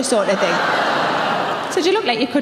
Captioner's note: audience groans